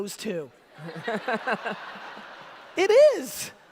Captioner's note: audience laughter